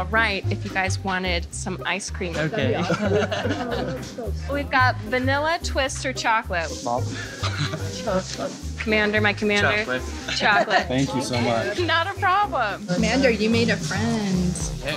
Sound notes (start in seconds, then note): 2.5 laughs